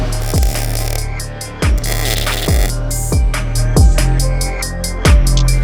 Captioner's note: suspenseful hip hop music; weld buzzing; suspenseful hip hop music